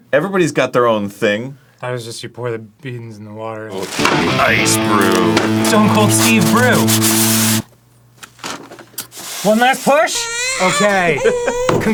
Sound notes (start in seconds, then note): 4.4 in a hardcore voice